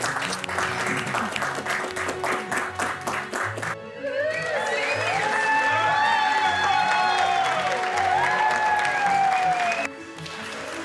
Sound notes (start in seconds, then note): 1.5 guests cheering and applauding; 6.9 guests applauding